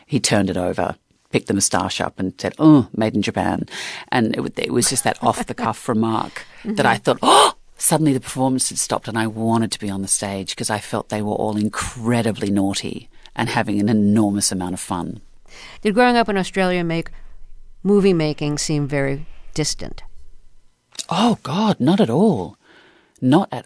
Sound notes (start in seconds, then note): 4.8 laughter; 7.3 gasping